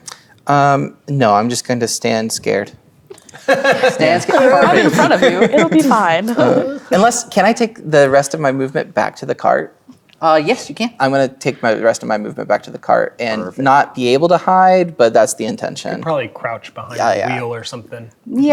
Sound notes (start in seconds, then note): 3.2 players laughing